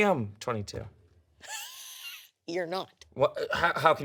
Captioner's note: laughs